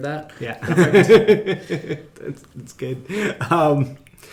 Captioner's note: laughing